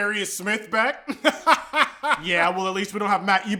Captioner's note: laughing